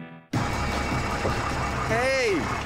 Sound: engine hums

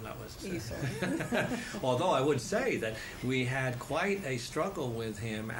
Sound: laughter

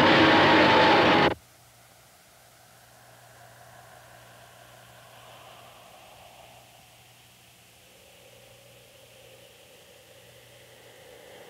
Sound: silence

